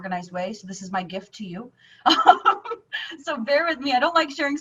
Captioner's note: laughing